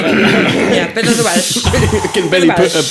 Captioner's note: laughing